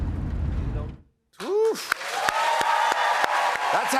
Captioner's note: cheers and applause